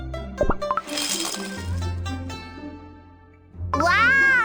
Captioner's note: tinkle tinkle